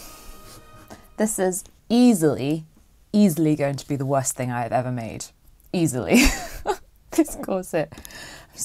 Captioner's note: laughs